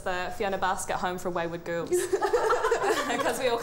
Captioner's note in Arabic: ضحك